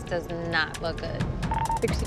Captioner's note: beeping